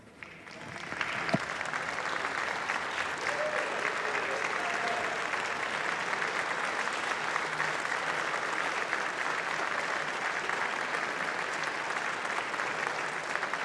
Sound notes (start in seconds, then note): 7.2 applause